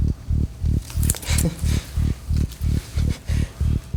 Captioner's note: David laughs